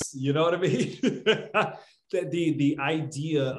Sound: laughs

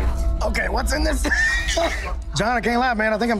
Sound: wheezes

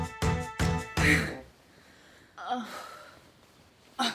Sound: exhales loudly

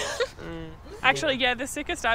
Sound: Daisy laughing

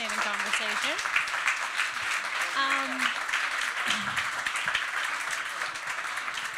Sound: applause

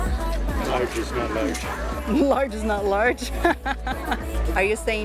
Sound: laughs

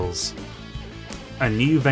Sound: smack

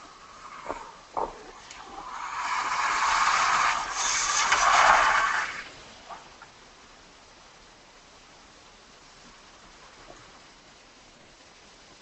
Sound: truck braking noise

